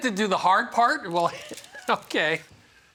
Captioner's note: laughing